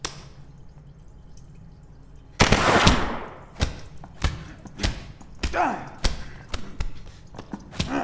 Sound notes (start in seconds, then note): 2.4 gun fires